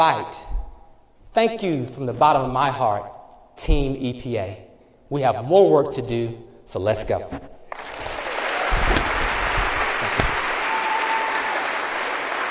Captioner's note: applause